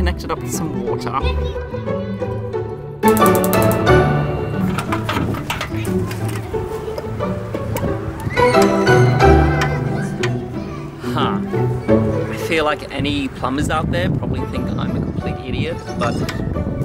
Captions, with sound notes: and get this connected up to some water. (kids shouting and playing) (hoses tapping) Huh, I feel like any plumbers out there probably think I'm an idiot.